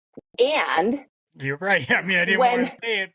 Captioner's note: laughs